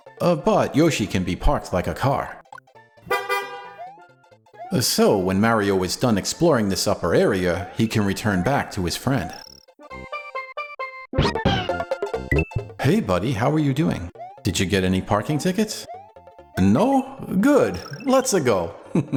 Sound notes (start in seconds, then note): 3.1 beep Beep